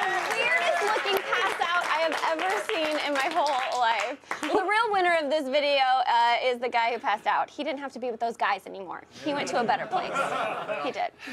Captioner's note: laughter